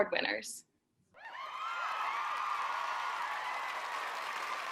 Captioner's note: crowd cheers